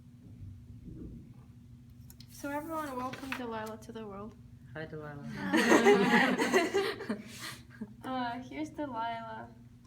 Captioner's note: audience welcomes